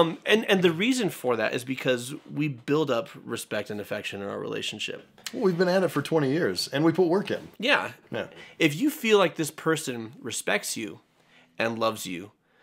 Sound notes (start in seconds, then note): none